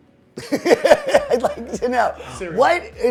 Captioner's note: laughs